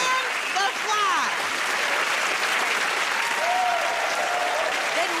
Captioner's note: cheers and applause